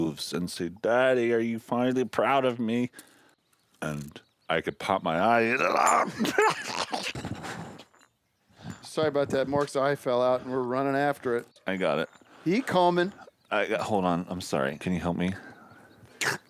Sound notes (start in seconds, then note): 5.4 grunting; 16.2 slurping